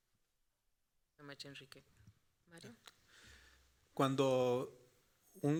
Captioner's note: moderator speaking Spanish; speaking Spanish